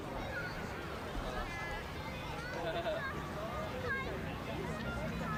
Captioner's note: indistinct chatter